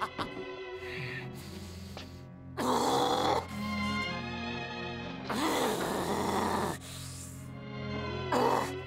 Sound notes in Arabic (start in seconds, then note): 2.7 صراخ غاضب